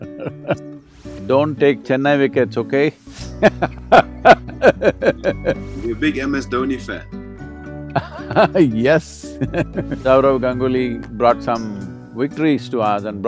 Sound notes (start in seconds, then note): 0.0 both laugh; 4.9 laughs; 7.9 Sadhguru laughs